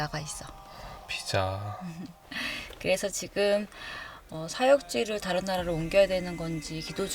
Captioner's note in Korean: 헉 소리